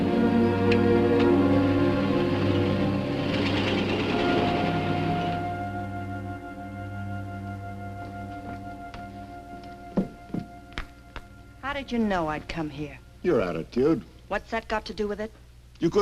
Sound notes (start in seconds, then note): 2.0 car engine revving